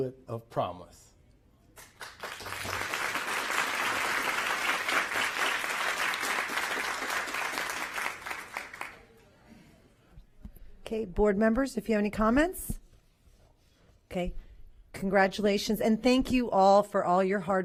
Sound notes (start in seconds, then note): 7.2 applause